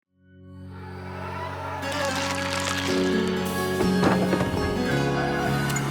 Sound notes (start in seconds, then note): 1.8 blood oozing; 3.9 coffins clunk